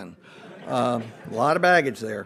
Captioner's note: audience laughs